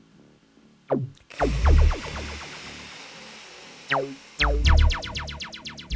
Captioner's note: hisses